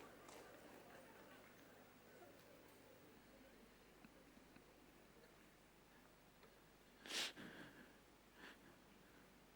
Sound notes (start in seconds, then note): 4.6 laughter